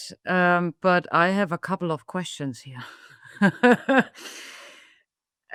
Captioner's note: laughing